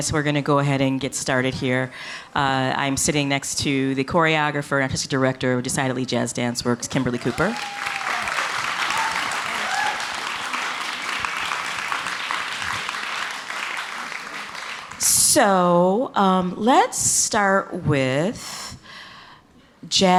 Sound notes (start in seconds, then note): 6.9 audience cheering; 6.9 audience clapping